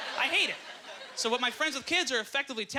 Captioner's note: audience laughter